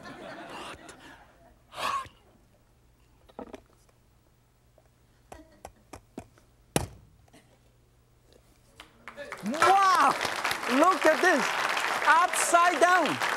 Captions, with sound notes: (audience chuckles) - Hot! (tapping) (audience claps) Wow, look at this! Upside down!